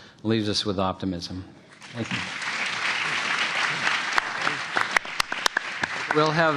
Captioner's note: applause